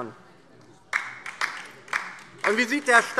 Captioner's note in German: Beifall DIE LINKE